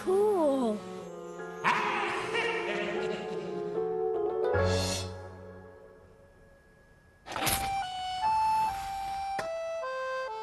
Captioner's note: eerie laughter resounding